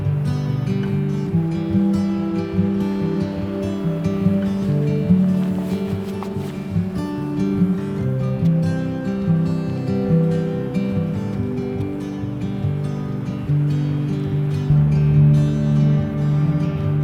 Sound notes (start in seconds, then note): 2.7 water streaming loudly; 7.2 lighthearted music